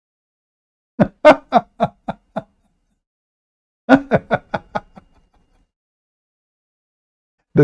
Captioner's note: Ketawa